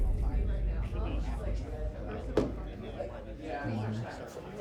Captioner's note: people chattering